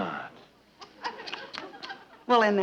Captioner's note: audience chuckling